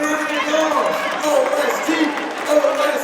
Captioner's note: audience applauds